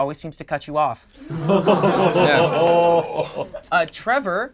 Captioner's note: group groans